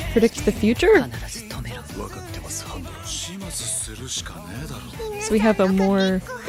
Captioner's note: upbeat music; foreign language